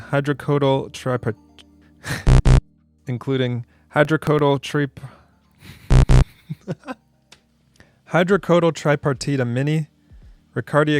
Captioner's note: laughing